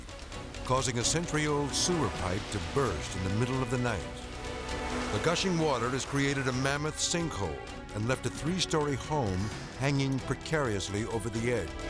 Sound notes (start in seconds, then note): 4.0 water gushing